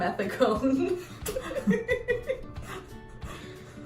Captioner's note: laughter